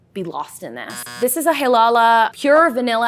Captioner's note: buzzer sounds